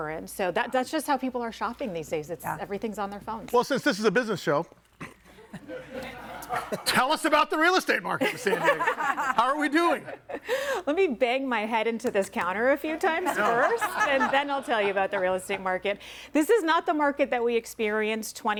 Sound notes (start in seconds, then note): 5.4 audience laughing; 8.2 group laughing